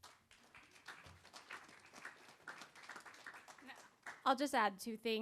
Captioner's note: applause